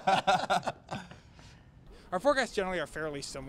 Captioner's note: laughter